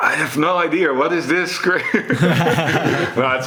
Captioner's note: chuckles; laughs